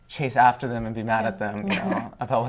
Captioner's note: laughter